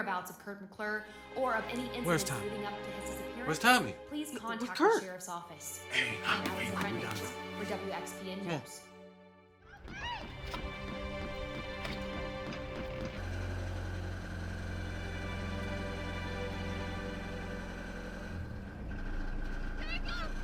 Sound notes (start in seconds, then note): 12.5 engine rumbling; 12.5 soft music